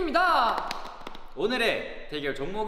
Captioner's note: clap x3